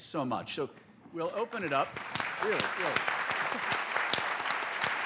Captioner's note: applause